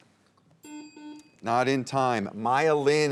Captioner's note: bell dings